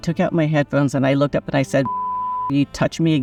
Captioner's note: beep